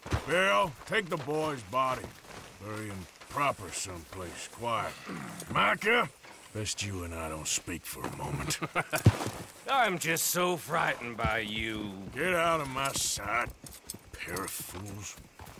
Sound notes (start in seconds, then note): 8.2 laughs